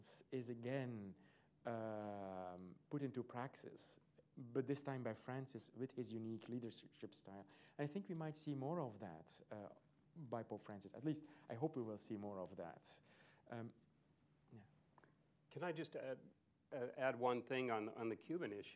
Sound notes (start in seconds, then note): none